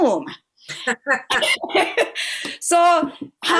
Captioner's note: laughter